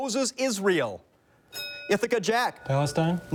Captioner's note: bell dings